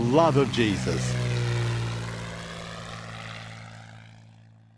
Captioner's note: plane engine whirring